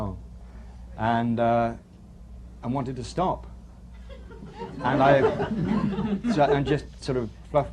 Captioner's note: laughter